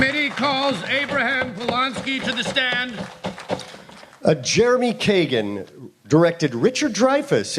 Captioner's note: applause